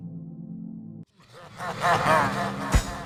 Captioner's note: menacing laugh